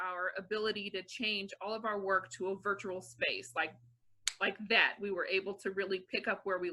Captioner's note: snaps fingers